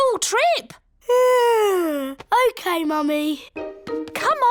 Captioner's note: yawns